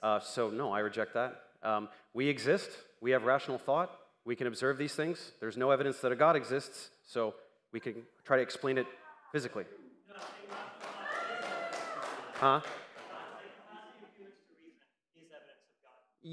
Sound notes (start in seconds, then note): 10.0 crowd noise